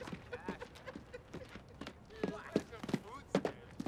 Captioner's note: men laughing